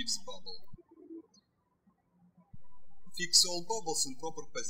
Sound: birds chirping

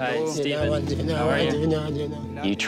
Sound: speaking foreign language

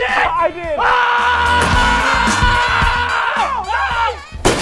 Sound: yelling

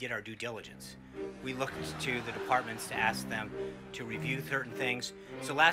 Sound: laugh track

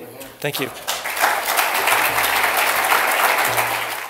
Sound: applause

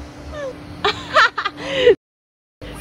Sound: laughs

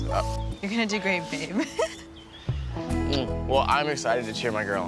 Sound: laughs

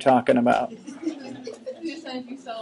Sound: students laughing

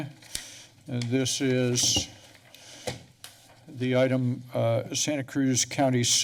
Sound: papers rustling

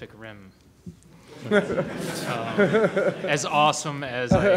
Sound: laughter

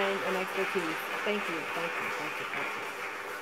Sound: applause

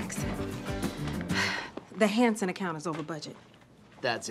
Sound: sighs

